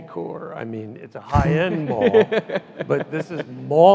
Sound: laughs loudly

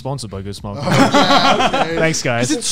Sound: laughs

